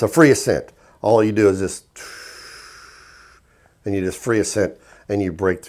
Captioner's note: exhales